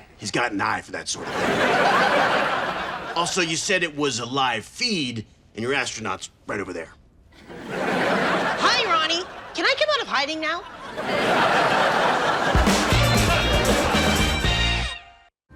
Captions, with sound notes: He's got an eye for that sort of thing. Also you said it was a live feed and your astronaut's right over there. - Hi, Ronnie. Can I come out of hiding now? (audience laughs)